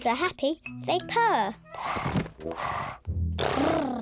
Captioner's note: all purring; purring